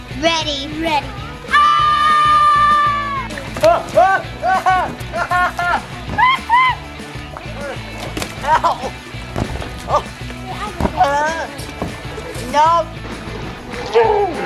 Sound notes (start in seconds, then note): 1.1 girls yelling; 5.7 screams; 10.9 screams